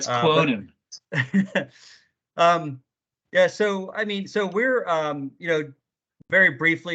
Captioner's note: laughs